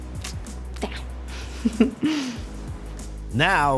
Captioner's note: chuckles